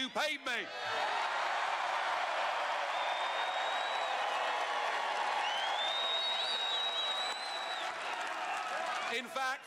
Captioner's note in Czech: Potlesk